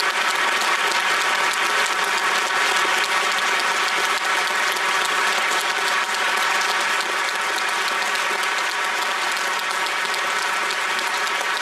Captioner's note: applause